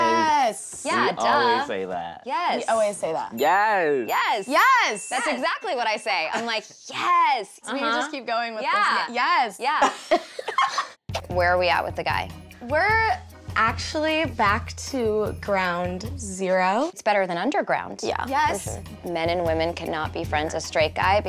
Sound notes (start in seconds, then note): 10.1 laughing